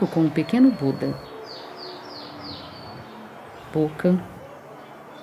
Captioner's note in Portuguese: Sons de pássaros cantando